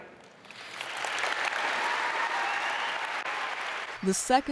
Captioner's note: audience claps